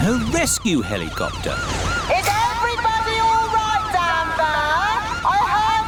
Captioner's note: over megaphone